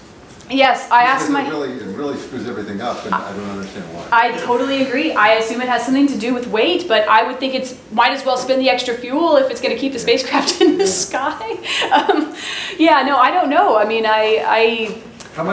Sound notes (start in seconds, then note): 12.7 laughs